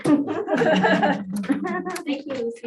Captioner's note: laughter